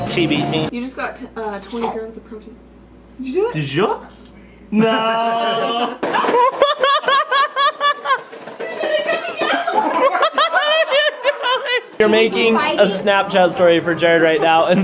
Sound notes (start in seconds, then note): 4.7 laughing